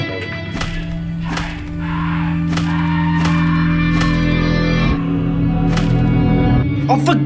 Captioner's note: sounds of punching and yelling